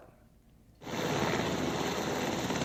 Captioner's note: helicopter engine